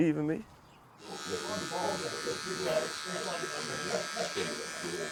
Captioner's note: razor buzzing; background chatter